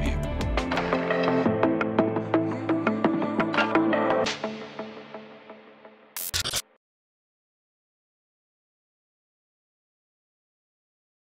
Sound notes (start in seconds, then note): 0.0 bright music; 6.2 electronic fizzle